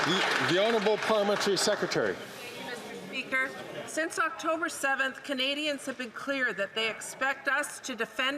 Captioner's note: some Applause